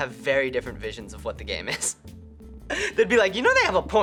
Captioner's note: chuckles